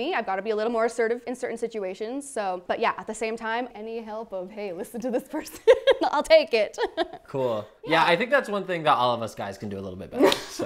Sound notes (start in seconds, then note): 6.8 laughs; 10.2 laughs